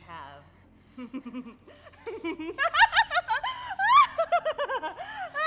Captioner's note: mad laughter